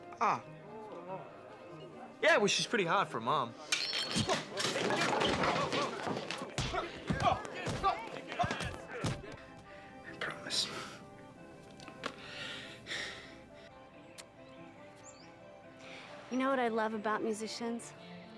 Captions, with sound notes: - Ah. - Yeah well she's pretty hot for a mom. (clinking) (bashing) (bashing) - He promised. - You know what I love about musicians?